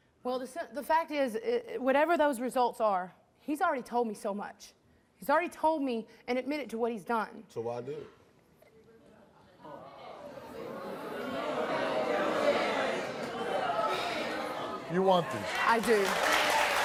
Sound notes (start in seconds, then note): 9.6 audience mutters; 16.6 audience clap and cheer